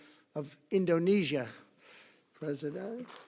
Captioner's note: applause